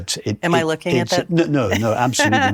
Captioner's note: laughs